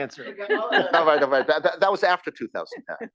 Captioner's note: laugh